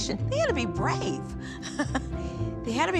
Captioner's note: chuckling